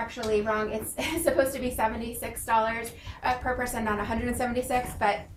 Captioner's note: laughing